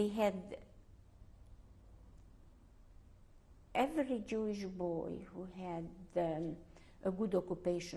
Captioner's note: pauses for 3 seconds